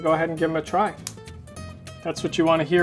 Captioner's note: breadstick cracks